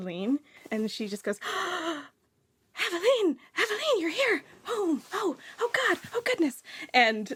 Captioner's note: gasps